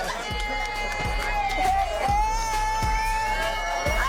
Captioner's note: cheering